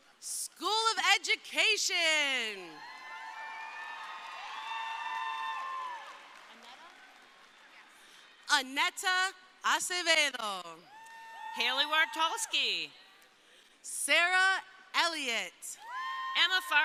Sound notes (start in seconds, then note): 2.7 crowd cheering; 10.9 crowd cheering; 15.8 crowd cheering